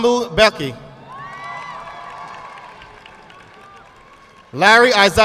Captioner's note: audience clapping